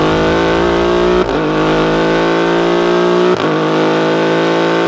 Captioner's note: car engine roaring